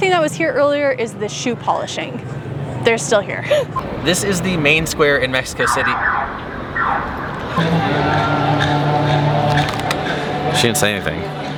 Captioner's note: sirens sound